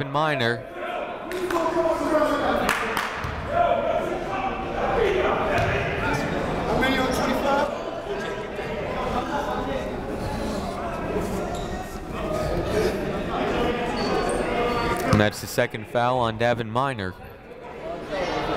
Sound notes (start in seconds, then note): 2.2 shouting